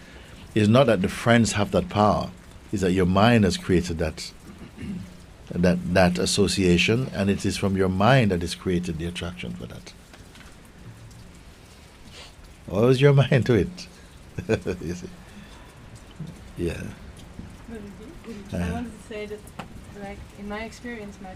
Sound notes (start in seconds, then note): 14.3 chuckles